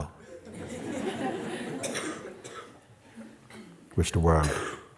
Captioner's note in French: rires